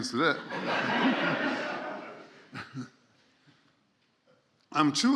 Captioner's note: laughter